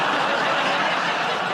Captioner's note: laughter